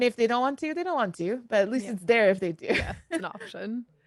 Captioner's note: laughs